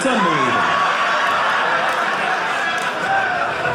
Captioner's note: audience laughing